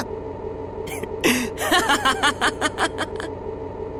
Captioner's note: laugh